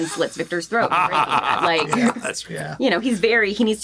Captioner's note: laughs